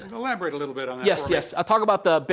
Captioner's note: voiceover